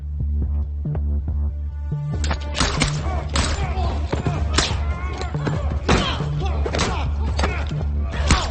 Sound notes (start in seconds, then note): 2.7 people groaning; 4.0 gun shots firing